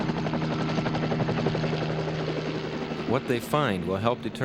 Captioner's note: helicopter whirring